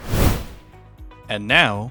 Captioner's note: whoosh Sound